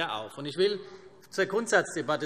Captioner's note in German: none